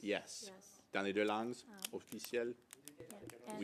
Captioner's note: speaking French